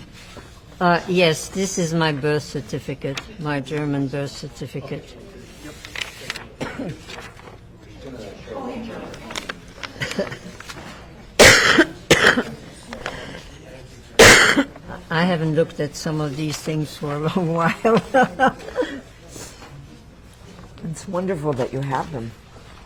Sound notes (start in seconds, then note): 11.4 coughing; 17.7 laughing